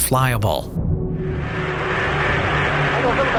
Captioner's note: airplane engine roaring